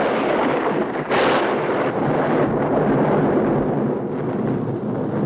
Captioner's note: thunderclap crashing